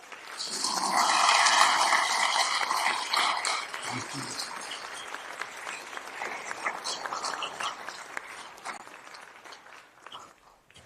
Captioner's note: applause